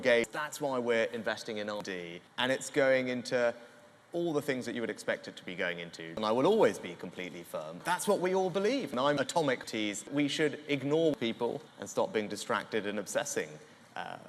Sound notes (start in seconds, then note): none